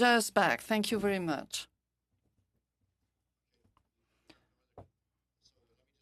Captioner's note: speaking French